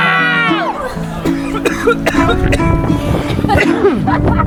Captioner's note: coughing; everyone laughing